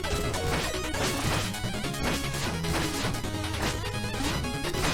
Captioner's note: bash